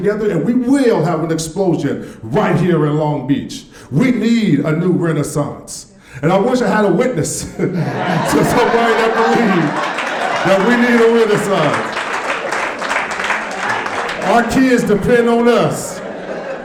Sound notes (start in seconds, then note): 7.8 audience laughing and clapping